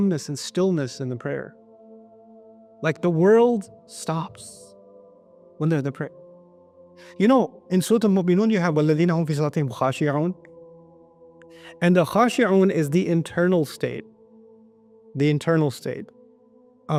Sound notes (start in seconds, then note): 8.7 Arabic